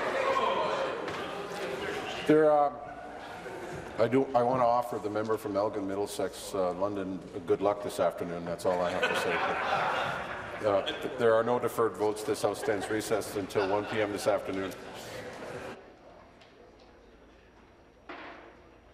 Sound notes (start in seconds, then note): 0.0 applause; 1.7 conversation din